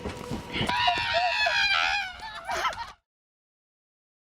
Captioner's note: screaming